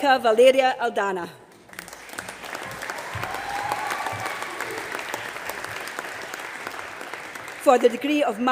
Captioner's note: applause